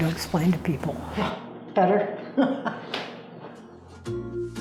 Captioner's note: laughs